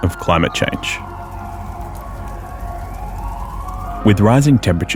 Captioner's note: fire crackles; siren wails